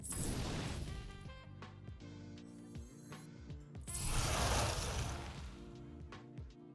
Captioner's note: whooshing